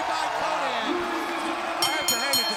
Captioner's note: bell ringing